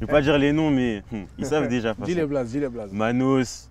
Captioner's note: laughs